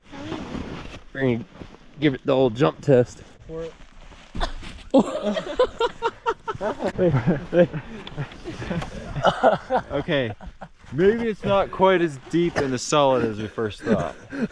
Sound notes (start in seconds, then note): 4.9 laughing; 4.9 more laughing